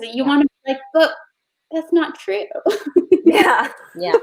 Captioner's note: laughs